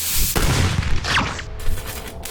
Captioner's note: gunfire; bullet strike; sparking